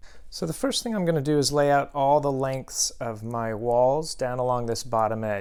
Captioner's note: none